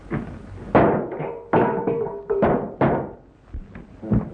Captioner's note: loud pounding